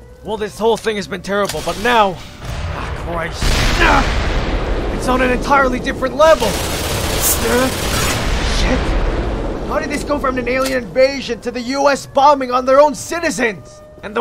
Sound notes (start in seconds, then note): 2.4 distant explosion; 3.4 explosion